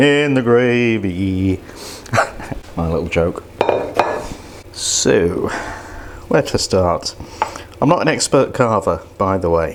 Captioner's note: laughs